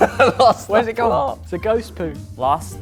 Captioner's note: laughs